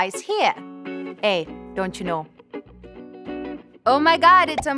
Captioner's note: bad canadian accent